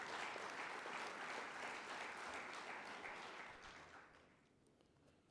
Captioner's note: applauding